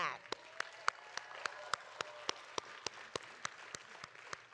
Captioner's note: audience applauding